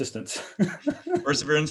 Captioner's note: laughing